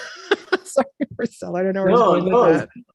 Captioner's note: laughs